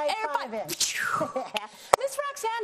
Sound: mimicking air whooshing

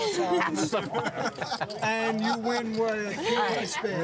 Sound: laughter

